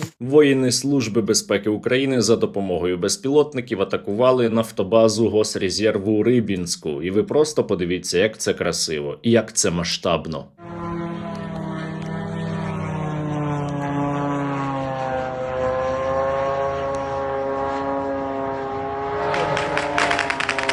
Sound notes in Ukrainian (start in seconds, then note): 10.5 звук дрона; 19.2 автоматні черги